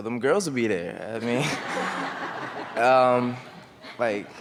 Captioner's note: laughing